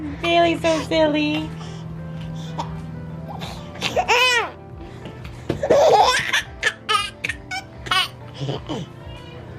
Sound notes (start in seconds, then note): 4.0 continues to giggle